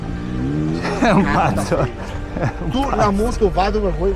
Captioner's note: laughter